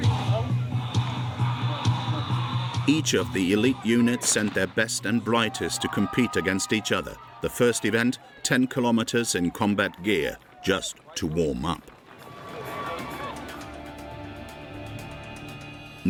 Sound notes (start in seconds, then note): 12.2 audience cheering; 12.6 dramatic music